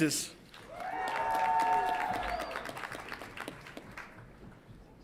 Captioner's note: audience applauds and cheers